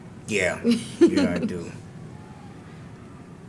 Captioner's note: laugh